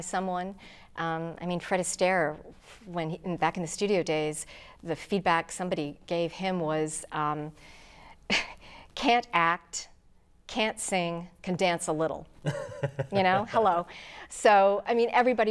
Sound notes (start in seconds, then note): 12.4 laughing